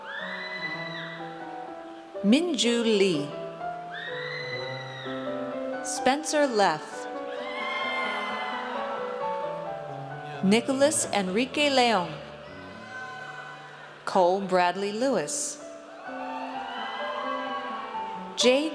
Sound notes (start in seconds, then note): 0.0 audience cheers; 3.9 audience cheers; 7.2 audience cheers; 12.5 audience cheers; 16.0 audience cheers